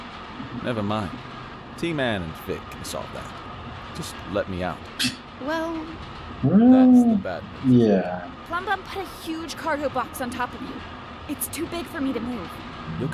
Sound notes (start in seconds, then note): 6.4 scoffs